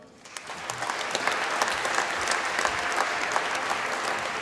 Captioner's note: applause